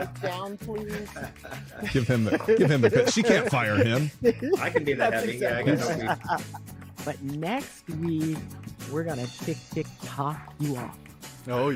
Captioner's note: laughter